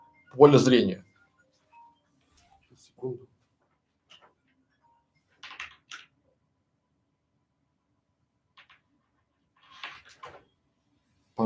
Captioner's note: Звонит телефон